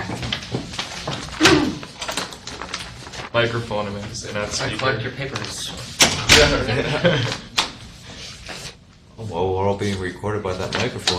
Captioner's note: chuckling